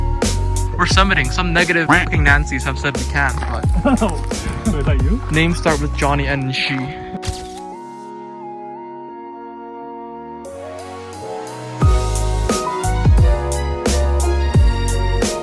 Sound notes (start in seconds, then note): 3.3 heh, heh